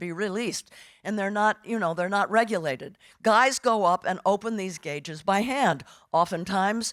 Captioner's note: none